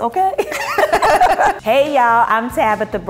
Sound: laughing

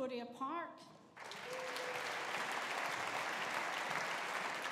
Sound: audience applauding

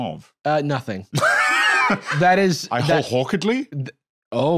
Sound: laughs

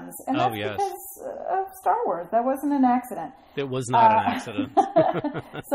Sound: laugh

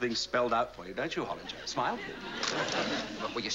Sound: camera shutter clicks

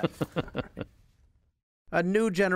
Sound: laughter

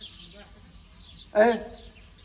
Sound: Arabic

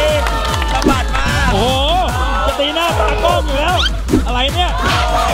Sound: upbeat music playing; cheering; pat; cheering continues

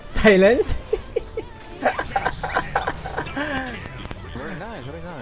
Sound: laughs

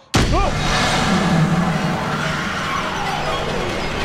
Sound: demon screeches

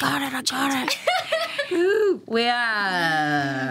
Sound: laughing

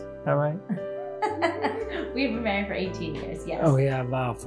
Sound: chuckles

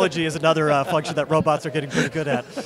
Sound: laughs

